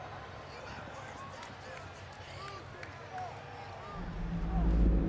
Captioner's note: crowd clamoring; dramatic music